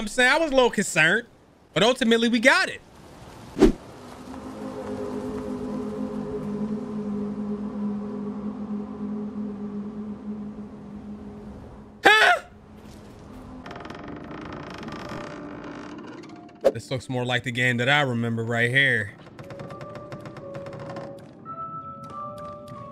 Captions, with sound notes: I was little concerned, but ultimately we got it. (deep crescendo music) (screams) (door squeaking) This looks more like the game that I remember right here. (deep tense music)